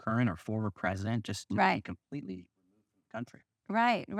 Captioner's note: audio cuts out